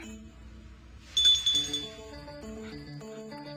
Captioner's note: ringing